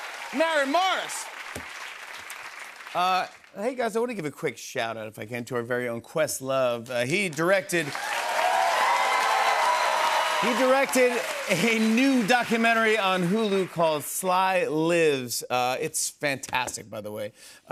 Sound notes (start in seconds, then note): 7.7 cheers and applause